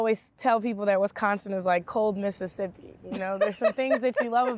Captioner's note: laughing